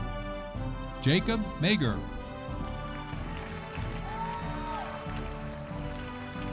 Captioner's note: audience applauding